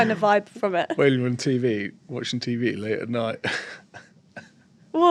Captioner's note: lauhter